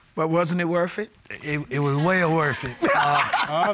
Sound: laughs

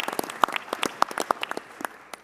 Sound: applause

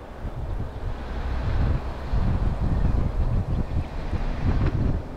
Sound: car slowly driving

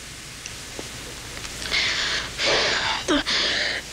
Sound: exhales

